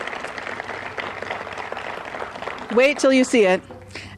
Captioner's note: applause